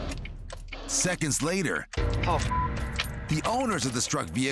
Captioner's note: beep